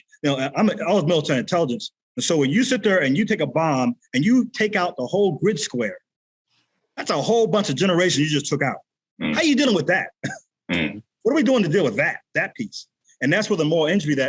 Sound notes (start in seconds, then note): 10.7 chuckles